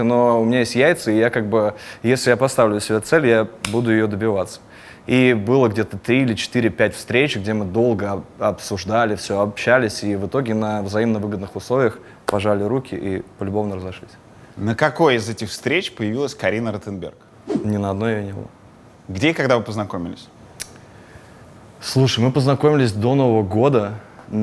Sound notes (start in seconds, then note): 20.6 clicks tongue